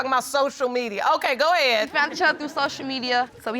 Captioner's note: audience laughing